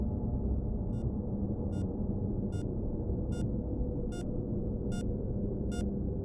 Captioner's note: heart monitor beeping